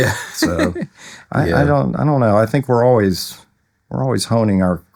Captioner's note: laughing